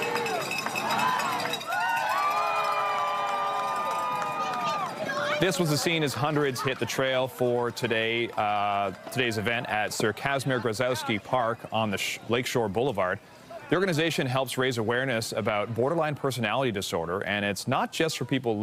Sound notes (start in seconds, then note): 9.6 applause